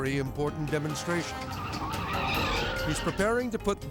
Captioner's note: tire screeching